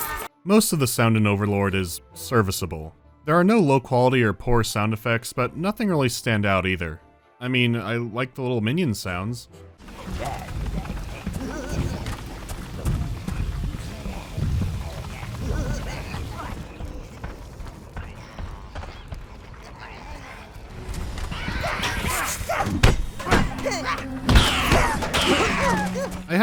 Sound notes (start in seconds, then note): 10.9 muffled murmurs and mischievous giggling; 16.5 guileful whispering; 20.8 panting, high-pitched battle cries and startled whimpers